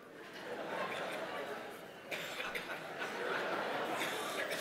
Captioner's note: audience laughing